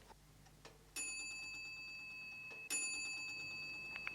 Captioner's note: clock chimes